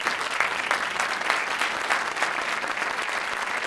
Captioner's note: applause; applause continues